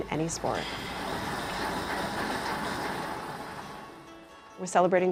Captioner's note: equipment whirring